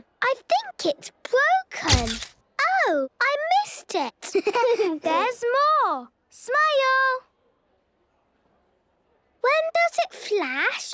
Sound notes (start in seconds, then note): 1.9 camera clicks; 4.3 giggling; 8.1 silence